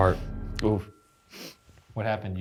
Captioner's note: sniffs